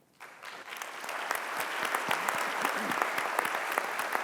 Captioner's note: applause